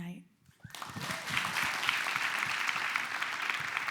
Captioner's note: clapping